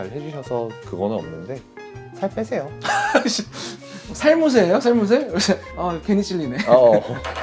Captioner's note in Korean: 웃음